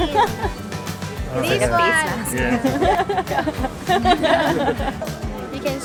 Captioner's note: laughter